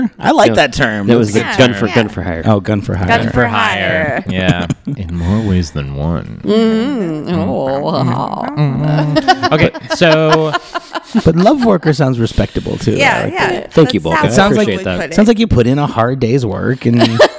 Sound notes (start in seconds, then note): 6.1 laughs; 12.1 laughs